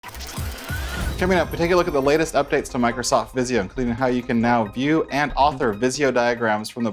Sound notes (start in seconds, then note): 0.0 whirring noise